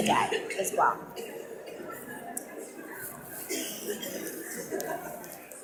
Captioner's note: audience mumbling